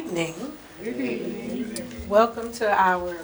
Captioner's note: crowd